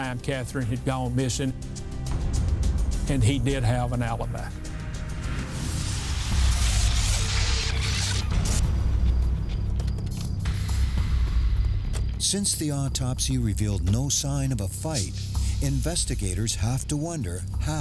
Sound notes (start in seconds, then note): 7.3 tape reel whirring; 7.3 tense music